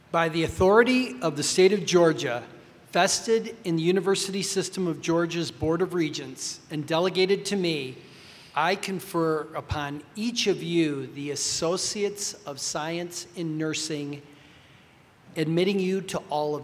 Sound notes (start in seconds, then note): none